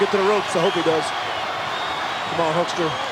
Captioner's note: audience cheering